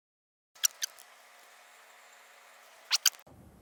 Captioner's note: squeaking